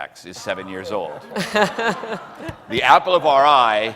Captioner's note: laughing